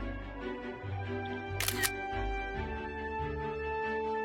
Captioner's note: camera shutter sound